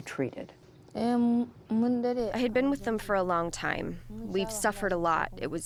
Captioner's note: through translator